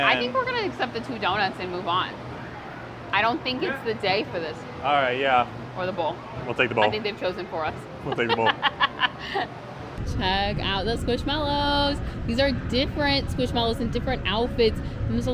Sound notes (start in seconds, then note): 8.0 laughing